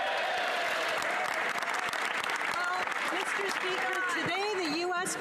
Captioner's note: speaking French